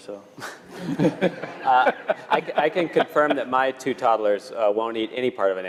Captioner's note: laugh